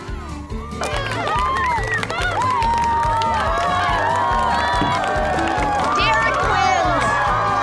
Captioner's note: cheering, applause